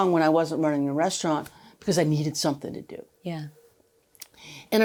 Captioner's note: none